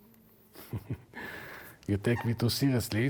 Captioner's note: laughs